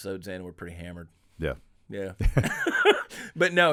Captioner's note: laughing